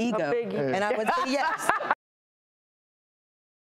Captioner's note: laughing